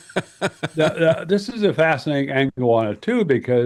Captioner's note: laughs